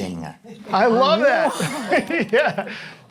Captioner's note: laughs